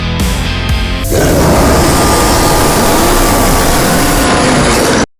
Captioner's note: hellish roar